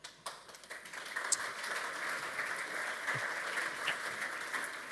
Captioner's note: audience clapping